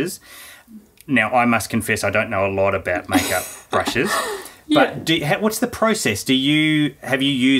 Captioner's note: laughing